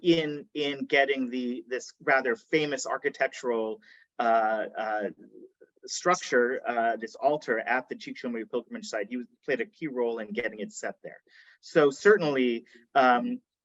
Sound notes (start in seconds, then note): none